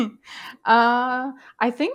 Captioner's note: laugh